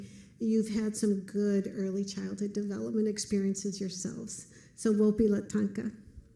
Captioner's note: foreign language